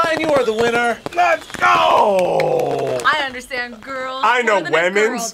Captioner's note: claps